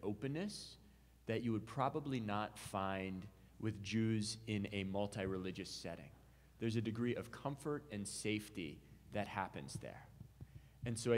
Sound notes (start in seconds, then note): none